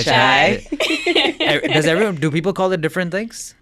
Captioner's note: both laughing